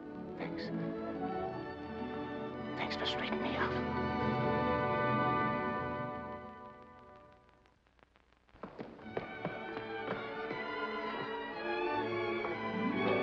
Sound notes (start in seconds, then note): 0.0 uplifting dramatic music; 8.5 Eddie's running footsteps; 9.1 dramatic sentimental music